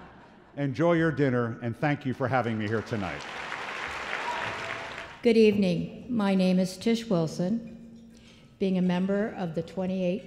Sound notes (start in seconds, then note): 2.1 applause